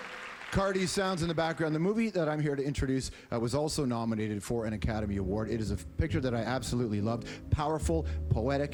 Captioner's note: applause